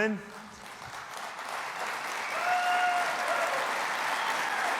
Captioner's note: audience applauding